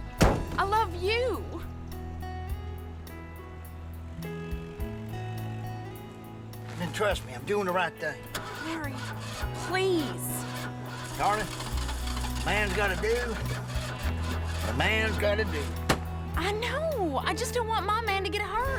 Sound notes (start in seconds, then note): 12.1 engine sputtering